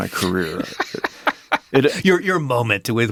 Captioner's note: laughs